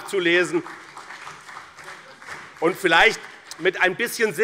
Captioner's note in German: Beifall